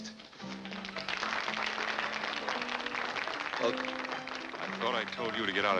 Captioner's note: applause